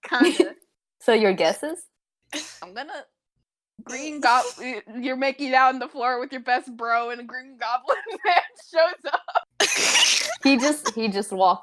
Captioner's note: giggles